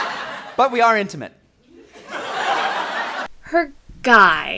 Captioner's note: laughter